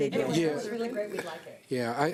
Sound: group chatter

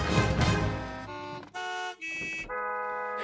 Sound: car horns honking melodically

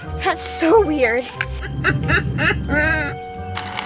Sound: laughing

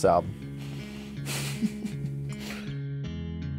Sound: laughs

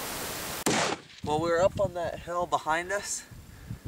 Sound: gunshot

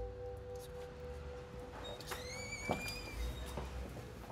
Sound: door opens

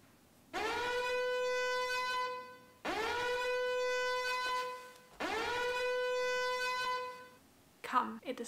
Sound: alarm goes off

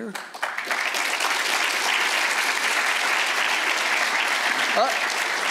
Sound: audience applauds

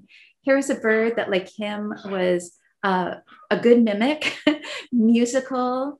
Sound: laughs

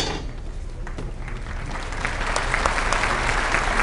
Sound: applause

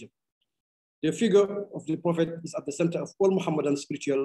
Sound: speaking arabic

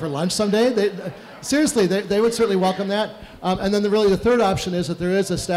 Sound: laughter

